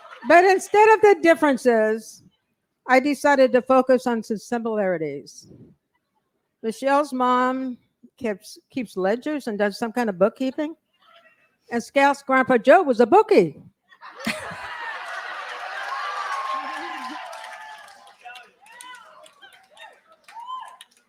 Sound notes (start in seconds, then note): 16.8 laughter